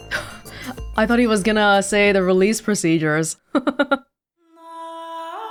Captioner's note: chuckles